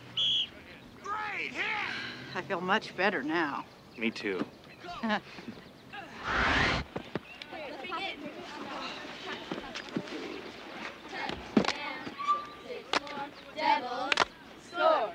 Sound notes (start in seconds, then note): 5.0 Nancy laughs; 7.4 children chattering